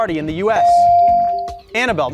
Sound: beep

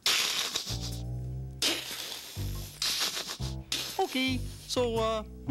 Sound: giggling

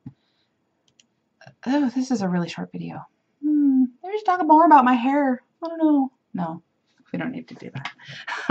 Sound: hmm

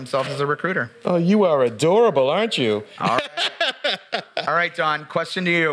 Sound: laughs

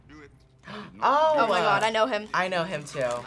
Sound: gasps

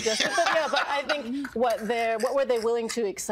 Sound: all laughing

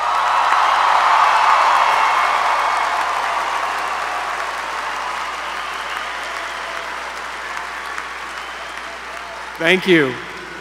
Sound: applause

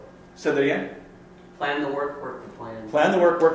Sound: voiceover

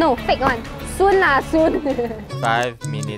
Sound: laughs

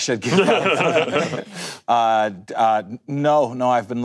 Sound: panel laughing

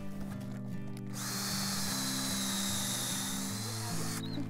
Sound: drill whirring

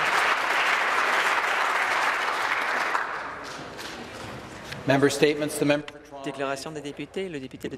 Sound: applause

